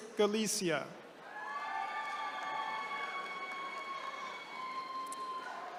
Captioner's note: attendees cheering